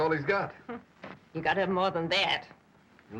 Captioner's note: scoffs